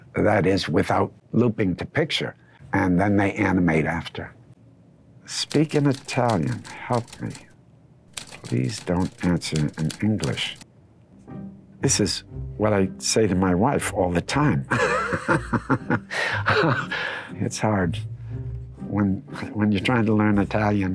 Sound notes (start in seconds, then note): 14.7 laughing